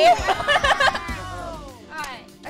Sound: laughter

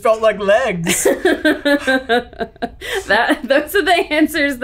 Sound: laughs

